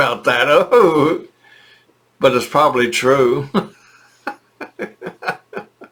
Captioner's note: laughing